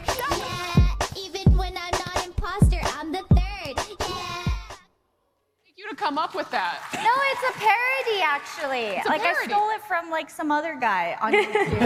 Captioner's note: applause